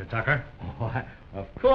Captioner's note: chuckles